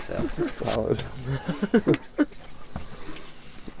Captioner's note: laughs